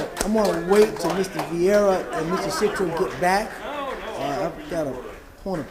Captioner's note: applause